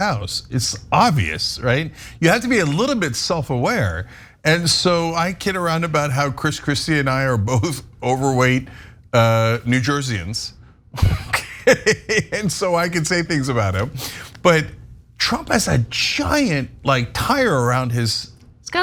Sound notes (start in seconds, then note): 11.0 laugh